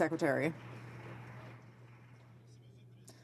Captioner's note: some Applause